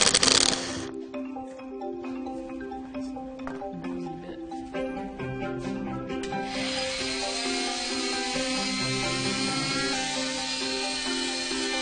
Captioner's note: tool whirring